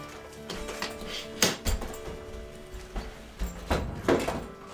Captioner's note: zipper closes; suitcase clicks